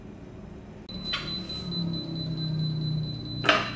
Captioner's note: button beeping; pressing machine sound